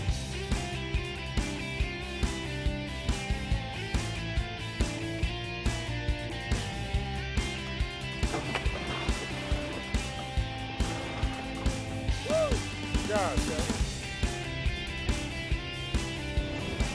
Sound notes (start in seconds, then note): 0.0 rock music; 8.1 water splashing; 14.3 rock music